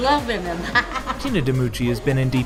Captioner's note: laughs